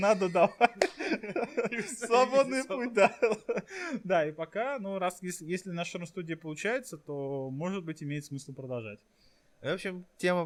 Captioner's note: laughing